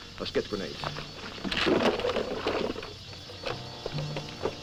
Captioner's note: crate rattling